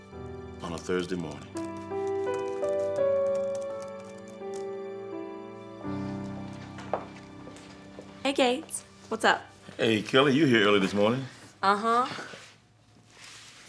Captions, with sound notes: on a Thursday morning. (soft gentle music) (keyboard clicking) - Hey Gates, what's up? - Hey, Kelly, you're here early this morning. - Uh-huh.